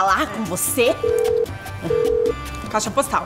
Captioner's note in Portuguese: barulho de telefone ocupado